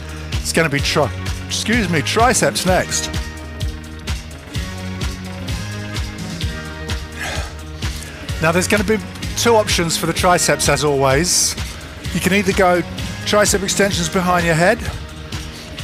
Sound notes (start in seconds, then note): 3.7 breathing heavily